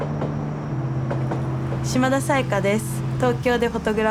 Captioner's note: speaking japanese